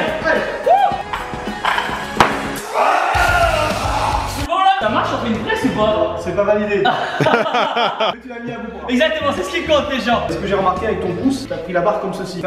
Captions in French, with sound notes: Wouuuh C'est bon là ? Cà marche comme une presse ou pas ? C'est pas validé. *rire* Exactement, c'est ce qui compte les gens. C'est ce que j'ai remarqué avec ton pouce t'as pris la barre comme ceci.